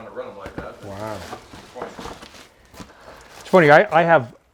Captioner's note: papers rustling